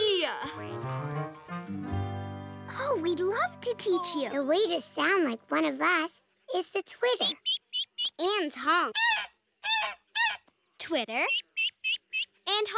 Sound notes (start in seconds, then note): 9.6 honks; 12.1 honks